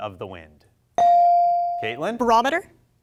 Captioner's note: bell rings